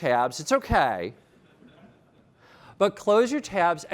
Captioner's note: laughter